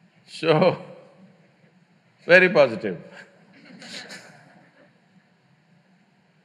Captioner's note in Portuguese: Risos